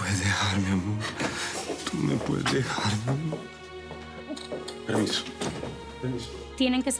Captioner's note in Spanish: Sonido al abrir la puerta